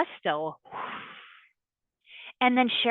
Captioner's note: exhales